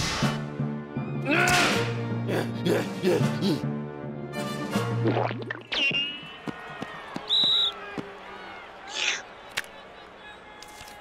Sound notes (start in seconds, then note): 7.1 whistle